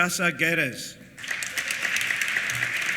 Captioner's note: applause